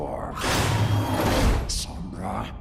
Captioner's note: door screeches